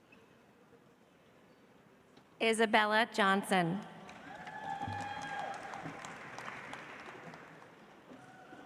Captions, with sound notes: Isabella Johnson. (audience applauds)